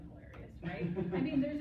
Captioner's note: laughter